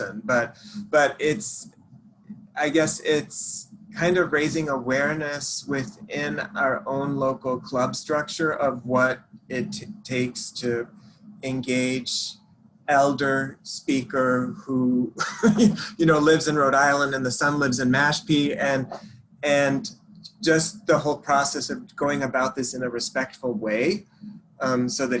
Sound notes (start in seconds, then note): 15.2 laughs